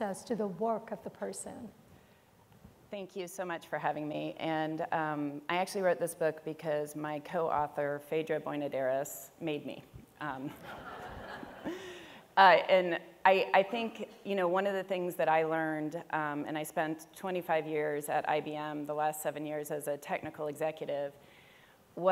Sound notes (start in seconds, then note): 10.6 audience laughs